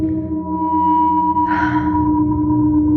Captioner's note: sigighs s sofoftly